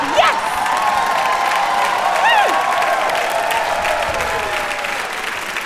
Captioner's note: audience applause